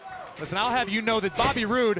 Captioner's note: crowd chatter